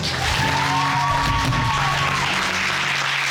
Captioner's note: audience cheering and applauding